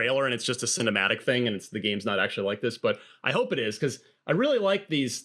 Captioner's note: none